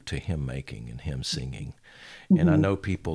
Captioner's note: hums